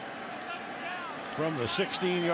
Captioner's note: onfield chatter